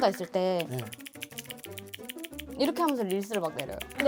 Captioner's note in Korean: 딸깍